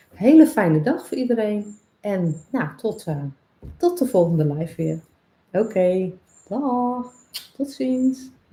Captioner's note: kiss sound